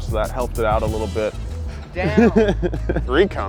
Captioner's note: laughing